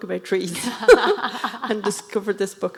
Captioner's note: laughing